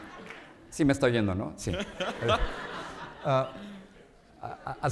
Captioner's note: speaking in Spanish